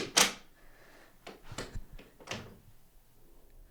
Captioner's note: locking door